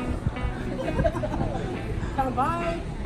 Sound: chuckling

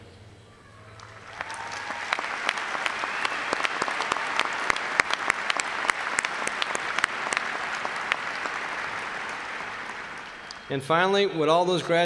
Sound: applause

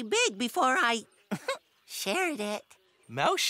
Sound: chuckles

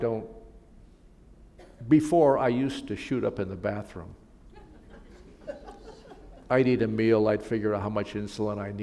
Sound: laughter

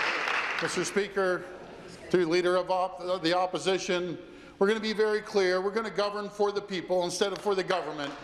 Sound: applause

